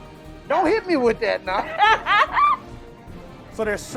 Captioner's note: laughing